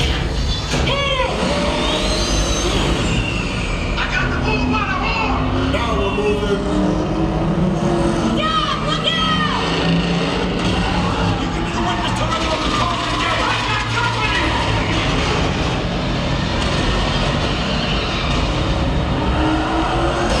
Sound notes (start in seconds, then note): 0.1 engine roars; 0.1 metal clangs; 10.2 engine rumbles; 15.2 car thuds; 15.2 engines rumble